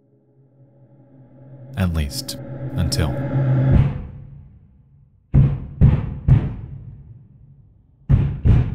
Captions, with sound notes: (high intensity music) At least, until. (neighbor pounding on wall)